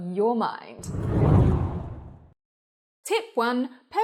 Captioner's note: air whooshes